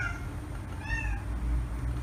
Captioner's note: cat meow